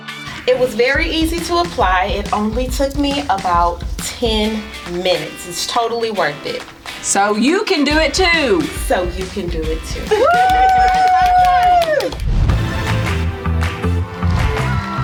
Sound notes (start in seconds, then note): 10.0 cheering and laughing; 12.5 electronic dance music